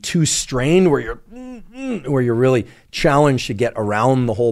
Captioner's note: grunts